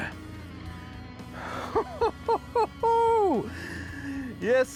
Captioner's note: laughing